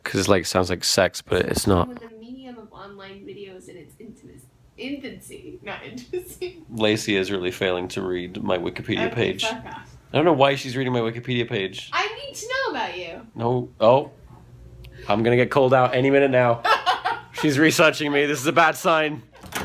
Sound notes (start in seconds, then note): 16.5 laughs